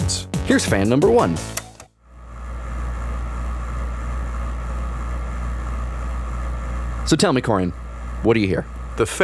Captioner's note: we hear a fan sound